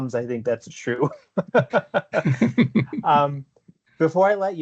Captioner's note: laughter